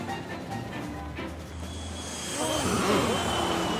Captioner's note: whoosh; grunting; gasps